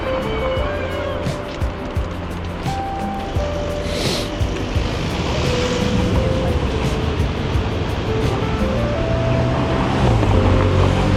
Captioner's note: wind Blowing